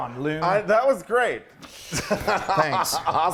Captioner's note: laughs